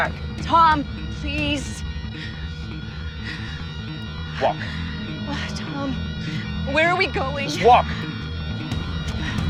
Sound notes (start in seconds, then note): 1.9 Olivia breathes heavy